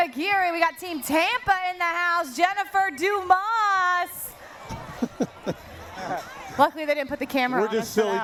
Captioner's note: laughter